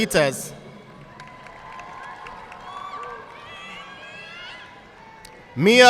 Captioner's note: audience clapping